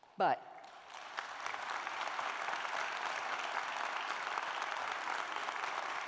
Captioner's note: applause